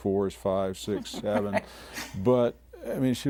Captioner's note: laughing